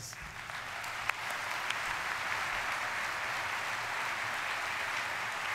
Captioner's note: audience applauding